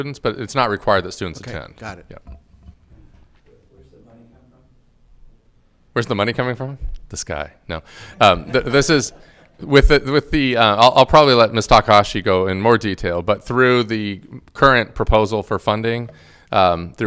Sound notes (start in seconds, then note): 8.0 all laughing